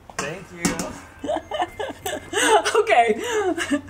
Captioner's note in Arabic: أمي تضحك